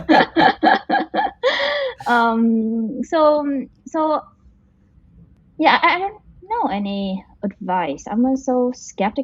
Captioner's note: laughs